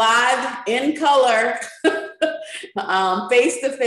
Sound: chuckles

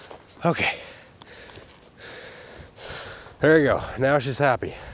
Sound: panting

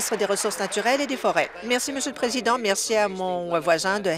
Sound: applause

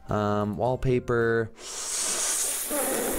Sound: breath in heavly

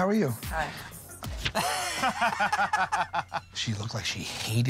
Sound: laughter

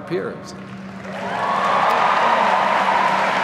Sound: applause

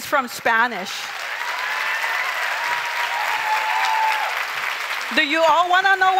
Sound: crowd cheers and applauds

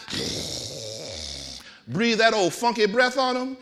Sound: groaning

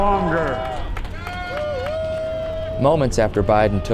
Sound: crowd cheering

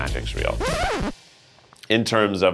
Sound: record scratch sound effect plays

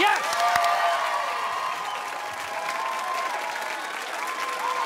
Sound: cheers and applause

